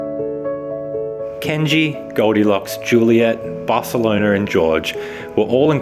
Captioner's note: voiceover